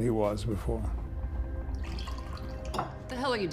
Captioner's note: wine burbling